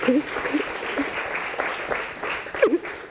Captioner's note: applause; crying